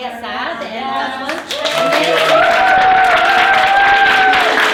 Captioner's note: cheering and applause